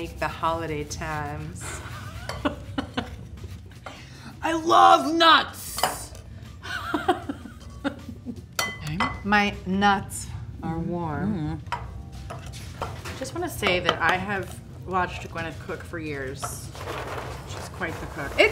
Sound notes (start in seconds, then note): 1.8 laughs